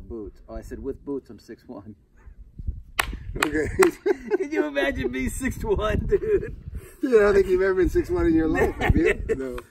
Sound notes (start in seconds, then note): 2.9 Maurice clapping hands; 3.4 Maurice and Real laughing; 3.5 laughing; 8.4 Maurice laughing